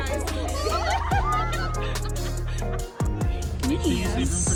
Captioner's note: crowd laughing; crowd mumbling